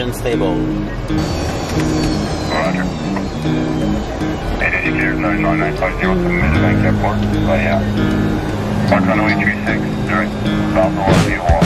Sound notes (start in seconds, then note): 7.6 radio speaking